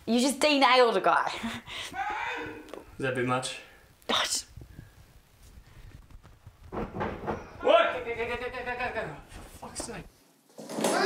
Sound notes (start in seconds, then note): 2.3 man yells; 6.0 thudding